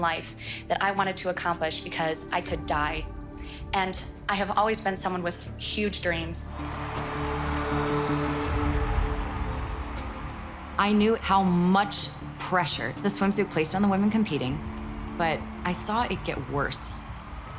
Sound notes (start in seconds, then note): 6.6 audience applauding and cheering